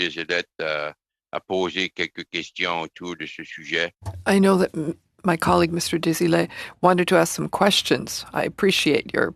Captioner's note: speaking French